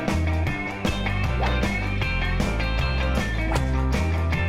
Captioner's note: whooshing